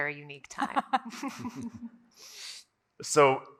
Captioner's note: everyone laughs